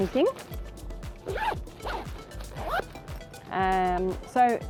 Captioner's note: bag zipping